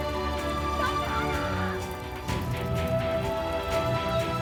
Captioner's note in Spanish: voz a lo lejos